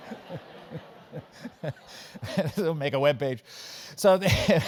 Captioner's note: laugh